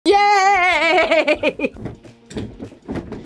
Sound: laughs

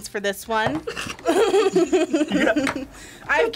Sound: laughs

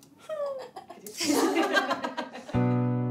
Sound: laughter

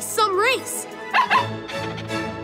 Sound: barking

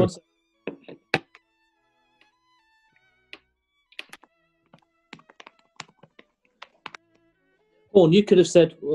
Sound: typing on keyboard

